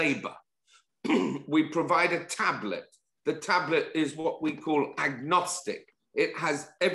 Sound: cough

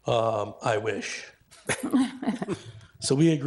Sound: people laughing

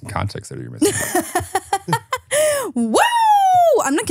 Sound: laughs

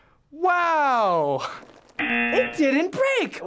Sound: buzzer

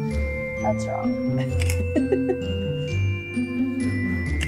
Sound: laughs

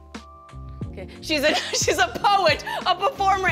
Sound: laughs

